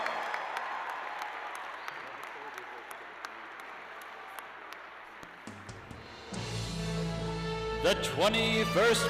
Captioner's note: cheers and applause